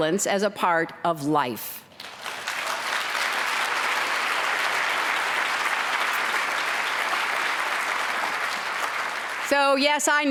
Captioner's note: applause